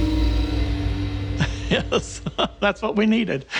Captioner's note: laughs